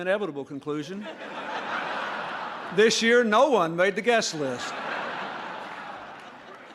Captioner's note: laughter